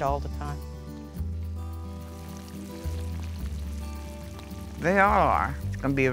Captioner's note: oil crackles